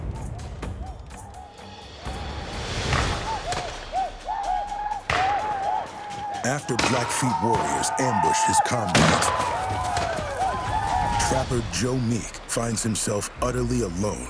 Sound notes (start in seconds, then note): 0.0 tense music; 3.0 whooping sounds, gunshots